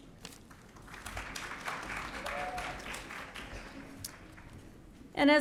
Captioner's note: audience cheering